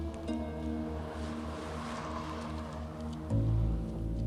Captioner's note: car engines revving; dramatic music